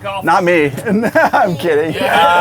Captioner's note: laughs